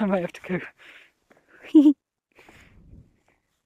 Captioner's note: giggles